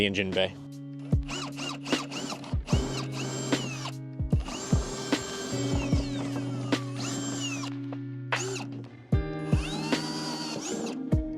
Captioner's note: drill noises